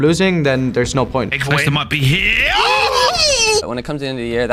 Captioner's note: exclaims